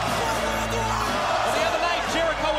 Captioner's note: crowd cheering